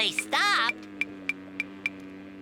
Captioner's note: ticking